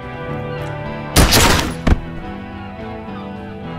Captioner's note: gunshot